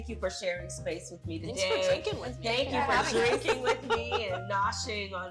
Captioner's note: laughter